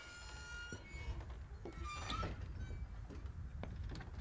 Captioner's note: doors creaking